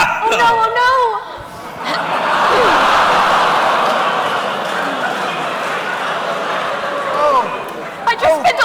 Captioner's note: laughter